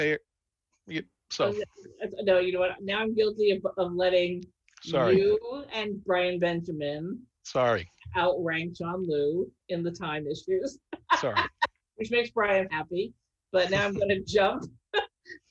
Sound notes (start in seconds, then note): 13.7 laughter